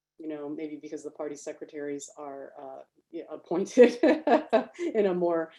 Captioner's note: laughs